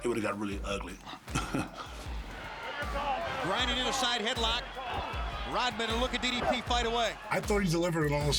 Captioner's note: laugh